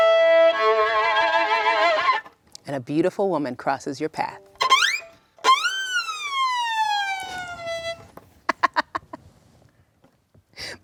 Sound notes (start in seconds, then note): 5.5 imitates whistle; 8.5 laughing